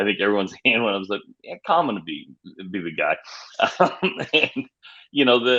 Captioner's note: laughs